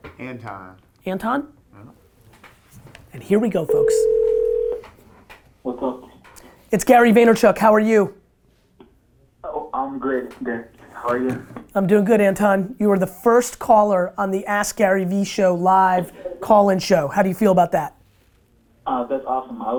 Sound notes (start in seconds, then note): 3.6 phone ringing